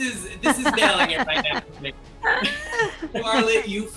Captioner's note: laughter